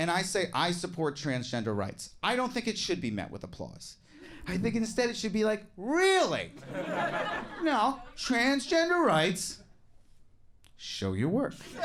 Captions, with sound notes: and I say I support transgender rights, I don't think it should be met with applause. I think instead it should be like, "Really?" (audience laughing) "No, transgender rights. Show your work."